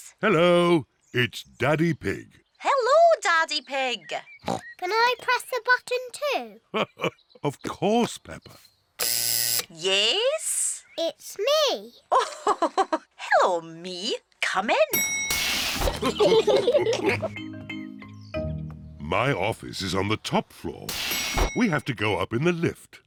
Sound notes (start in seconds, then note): 4.4 oinks; 6.7 laughs; 9.0 buzzer sounds; 12.1 laughs; 14.9 elevator bell dings; 15.9 all laughing; 20.3 elevator bell dings